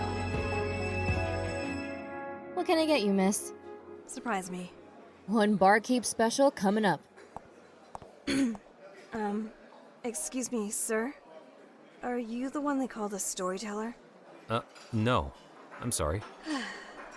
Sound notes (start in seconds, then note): 8.2 clears throat